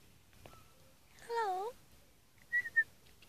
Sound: whistling

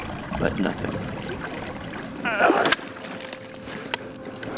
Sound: groaning; tender music

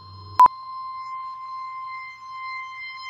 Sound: beep

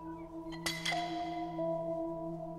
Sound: eerie music; tool clanging

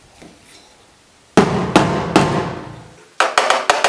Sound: thuds

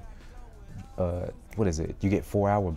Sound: snaps

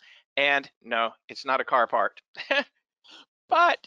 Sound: laughs

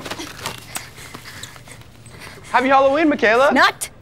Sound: heavy breathing

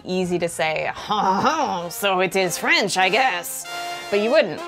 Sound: terrible French accent

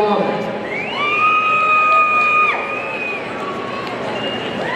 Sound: audience cheering

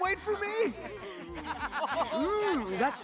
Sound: laughing

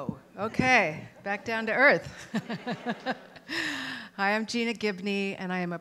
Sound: laughs

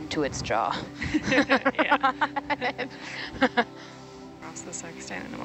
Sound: group chuckles

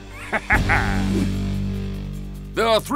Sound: laughs

